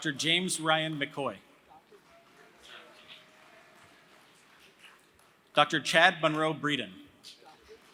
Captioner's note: applause; applause